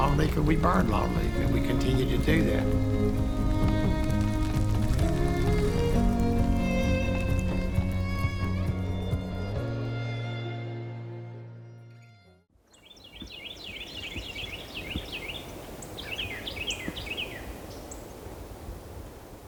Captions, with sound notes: (stirring music continues) (birds chirping) My dream is 300 years from now.